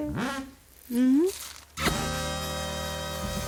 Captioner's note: kiss noise